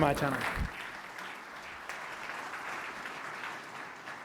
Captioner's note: applause